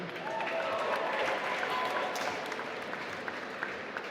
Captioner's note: applause